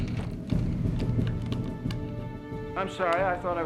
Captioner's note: rattling